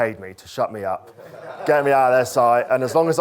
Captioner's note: crowd laughs